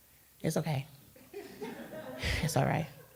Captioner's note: crowd laughter